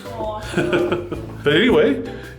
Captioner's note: laughs